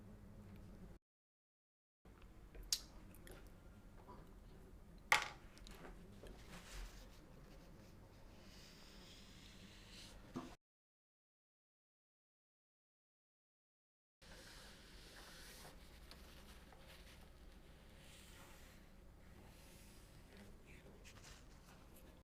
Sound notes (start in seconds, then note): 3.1 silence